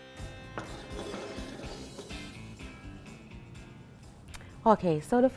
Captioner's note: plates clattering